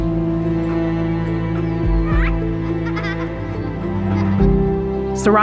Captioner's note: children laughing